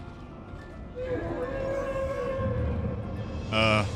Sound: distant wail

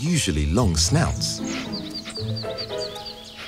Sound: sniffing

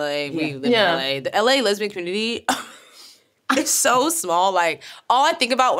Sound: laughs

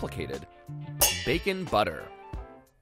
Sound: pans clanging

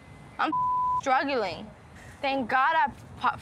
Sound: beep

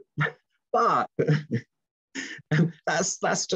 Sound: laughs

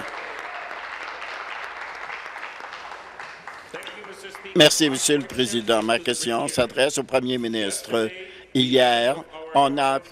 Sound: applause

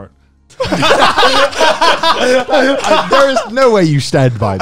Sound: everyone laughs

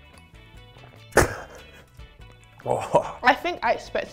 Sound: glass thuds; glugs; laughs

